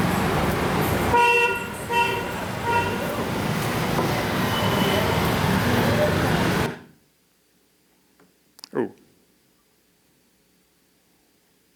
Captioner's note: horn honks